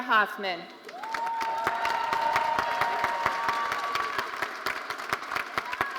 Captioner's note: audience cheering and applauding